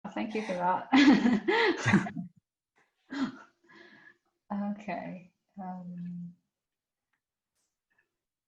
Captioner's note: laughs